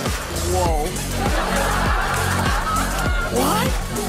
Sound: laughter

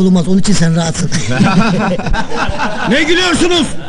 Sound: laughing

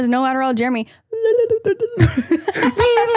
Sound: laughs

